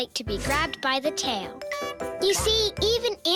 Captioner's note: tinkling